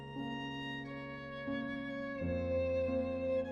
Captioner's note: none